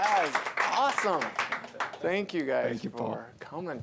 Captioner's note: applause